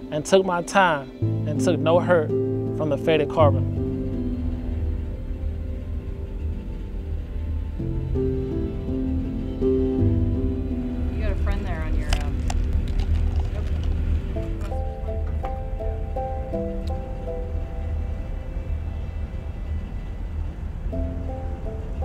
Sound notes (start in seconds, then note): 17.2 faint sound of engine